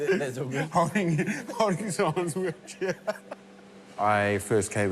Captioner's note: laughs